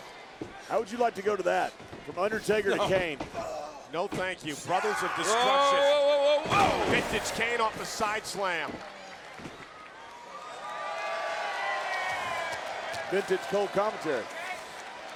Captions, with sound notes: How would you like to go to that? From Undertaker to Kane? No, thank you. Brothers of Destruction. Whoa, whoa, whoa, whoa. Vintage Cane off the side slam. (audience cheers) Vintage Cole commentary.